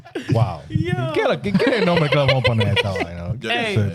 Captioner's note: speaking In Foreign Language